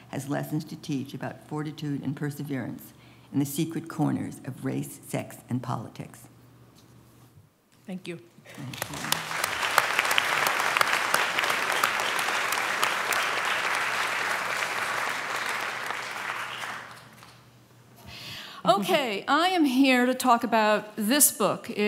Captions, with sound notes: has lessons to teach about fortitude and perseverance, in the secret corners of race, sex and politics. Thank you. [APPLAUSE] OK. I am here to talk about this book.